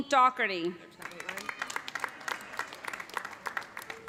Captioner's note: applause